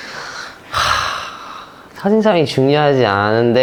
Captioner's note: deep sigh